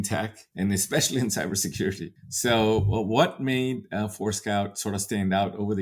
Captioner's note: laughs